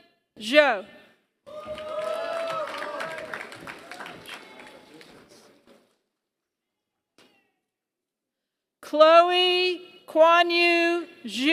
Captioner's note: applause